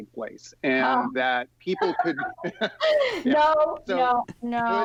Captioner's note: laughs